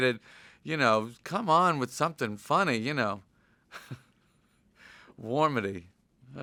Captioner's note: chuckles